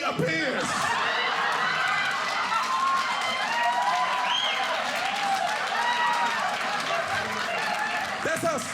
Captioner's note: audience cheering